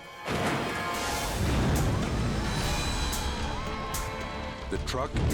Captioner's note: fire roaring